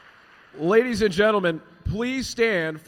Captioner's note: applause